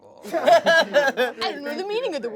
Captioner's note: laughing